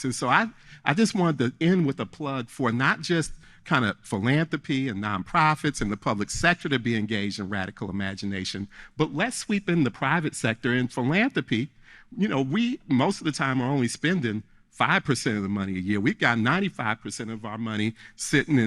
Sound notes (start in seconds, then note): none